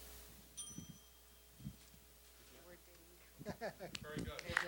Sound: bell dinging

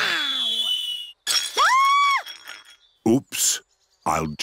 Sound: clattering and shrieking

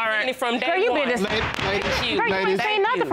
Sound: gavel banging

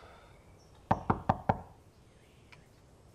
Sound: sighs; knocking

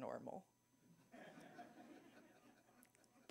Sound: laughter

